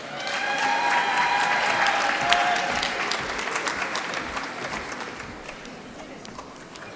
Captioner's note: applause